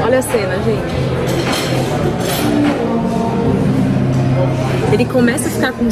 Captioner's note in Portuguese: ambiência de restaurante